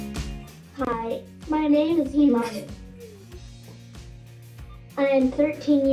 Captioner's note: upbeat music; computerized Voice